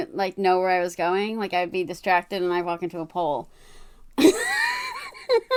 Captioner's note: laughs